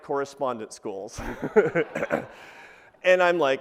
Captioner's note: laughs